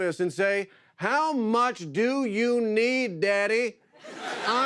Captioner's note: laughter